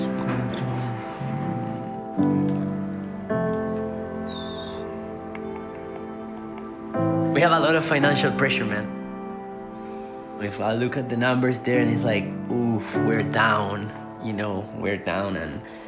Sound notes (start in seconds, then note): 0.1 muttering under breath; 5.3 clicking tongue